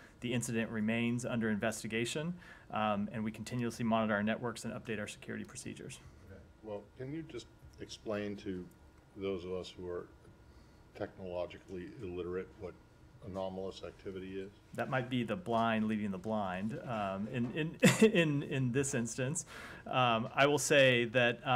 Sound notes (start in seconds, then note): 17.8 laughter